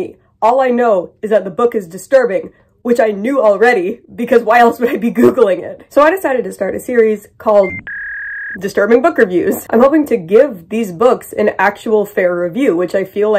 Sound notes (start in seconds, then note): 7.6 dial up tone